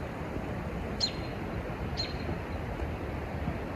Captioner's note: robin chirps